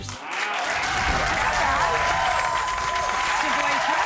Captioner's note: audience applauding